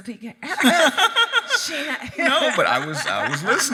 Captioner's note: both laughing